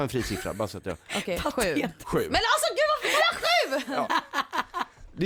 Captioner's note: laughs